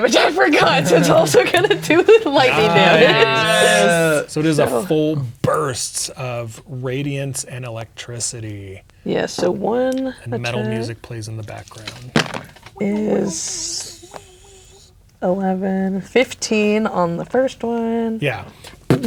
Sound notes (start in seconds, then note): 0.6 laughing; 12.1 dice rolling